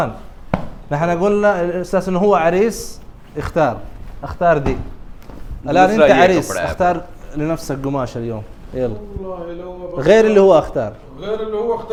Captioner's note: Arabic